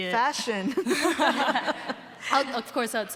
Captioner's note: both laughing